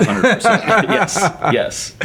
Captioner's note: laughing